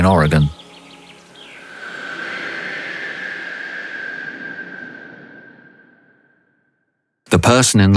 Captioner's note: whoosh